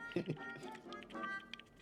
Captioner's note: chuckles